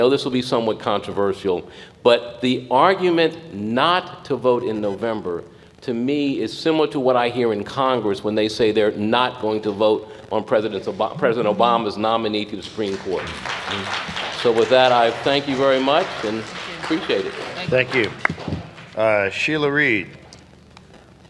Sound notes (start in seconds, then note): 12.6 applause